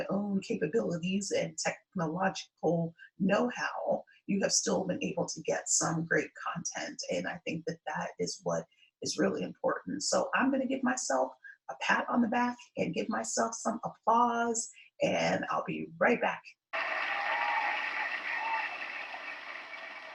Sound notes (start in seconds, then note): 16.7 crowd applause, cheering